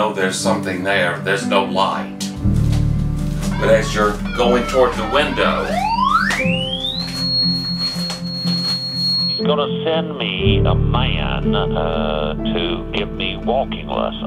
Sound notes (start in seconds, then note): 5.9 high frequency buzzing